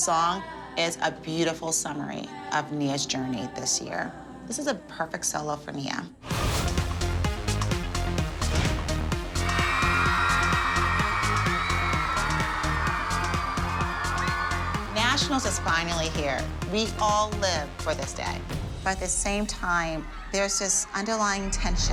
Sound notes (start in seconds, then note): 9.4 screaming